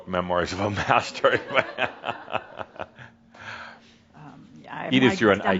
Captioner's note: Adamus chuckles